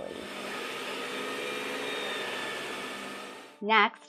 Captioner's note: vacuum buzzing